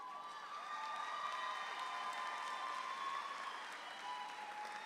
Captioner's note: audience applauds louder